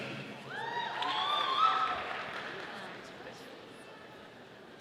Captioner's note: audience applauding